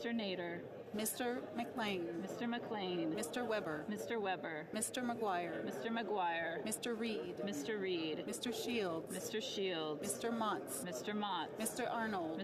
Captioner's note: calling of recorded vote